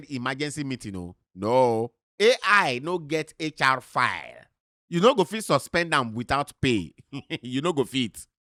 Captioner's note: chuckles